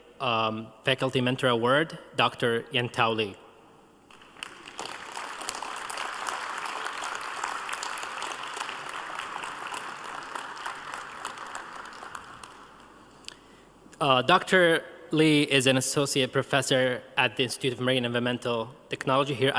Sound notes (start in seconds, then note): 7.9 applause